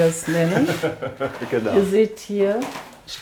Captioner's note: he laughs